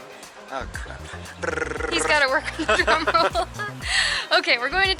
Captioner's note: laughter